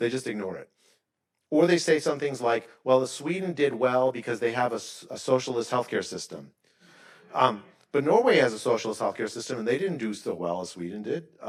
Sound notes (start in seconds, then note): 7.2 attendees laughing